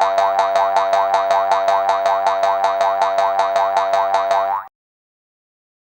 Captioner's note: fast Boing-Boings